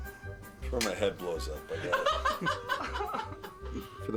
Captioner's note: Seinfeld laughs